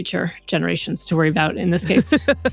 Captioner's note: laughter